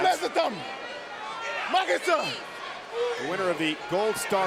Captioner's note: speaking foreign language